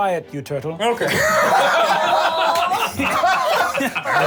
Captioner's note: laughing